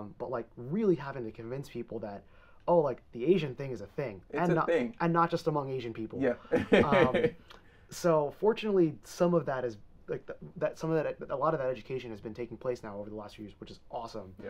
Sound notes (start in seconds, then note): 6.3 laughing